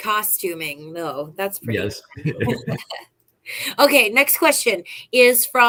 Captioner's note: laughter